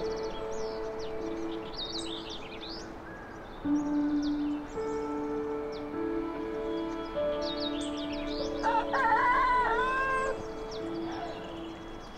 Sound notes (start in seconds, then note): 8.6 cocks crowing